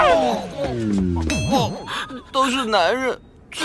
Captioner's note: crying, upset, sobbing